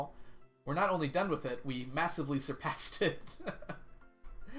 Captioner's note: laughs